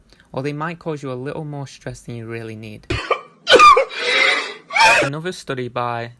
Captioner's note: man crying